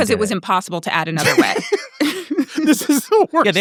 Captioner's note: laughs; people laughing